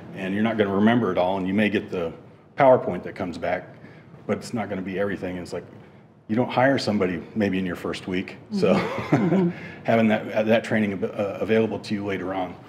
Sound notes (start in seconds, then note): 8.6 chuckles